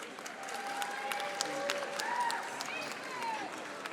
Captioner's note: audience applauding